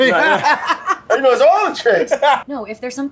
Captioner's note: laughing